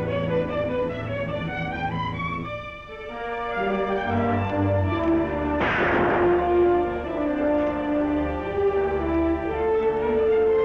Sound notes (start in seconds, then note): 5.6 gun Shots